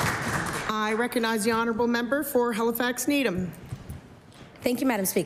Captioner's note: applause